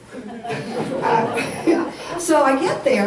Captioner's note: audience laughs